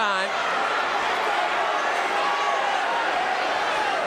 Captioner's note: audience cheering